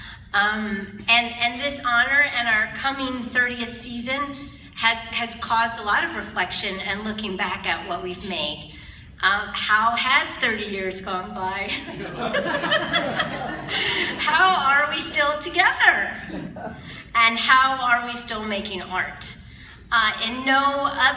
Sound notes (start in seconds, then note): 11.7 laughter